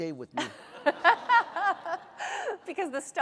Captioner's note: laughter